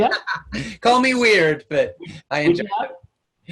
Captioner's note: laughs